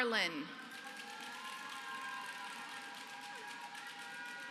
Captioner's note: applause